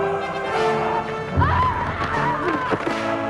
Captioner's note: both yelling